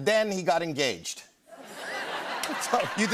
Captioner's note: laughter